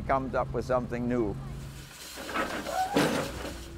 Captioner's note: steam shovel squeaking